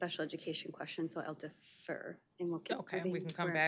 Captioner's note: indistinct chatter